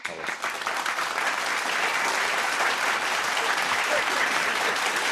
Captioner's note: audience clapping